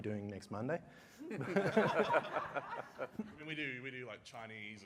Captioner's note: laughter